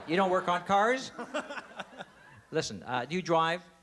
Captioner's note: laughs